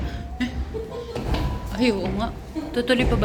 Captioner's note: laughs